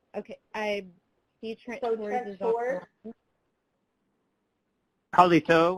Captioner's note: speaking Native language